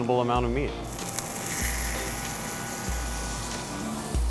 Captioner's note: meat sizzles; upbeat music